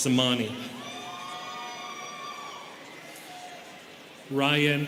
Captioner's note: students cheering